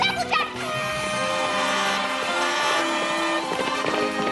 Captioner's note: cheers and applause